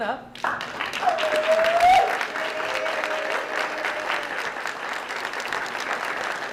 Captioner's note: applause